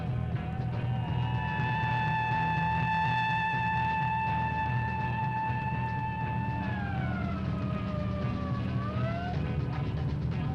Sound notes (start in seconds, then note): 0.5 siren blaring; 1.5 tense music continues